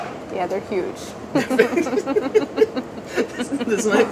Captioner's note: laughing